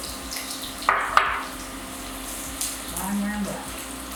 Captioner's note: oil sizzling